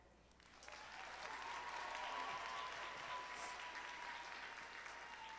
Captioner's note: audience applauding